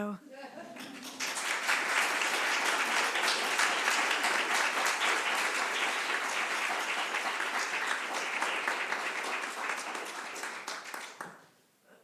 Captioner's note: applause